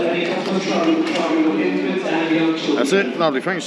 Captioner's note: boarding announcement